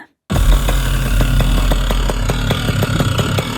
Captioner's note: motor puttering